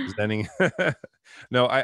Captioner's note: laugh